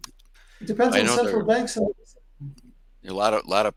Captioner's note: faintly speaking